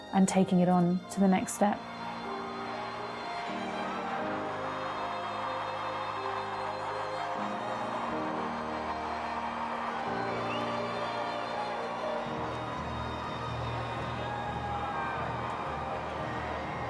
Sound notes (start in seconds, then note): 2.8 crowd cheering; 5.2 calm music